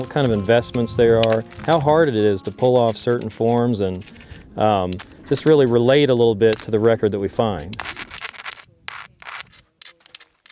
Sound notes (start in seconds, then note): 0.0 grinding sounds; 1.0 chipping sounds